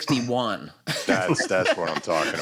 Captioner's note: laughter